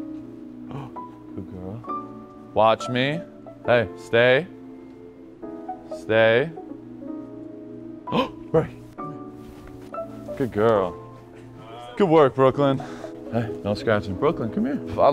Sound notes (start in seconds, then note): 0.0 jazzy piano music; 8.1 gasps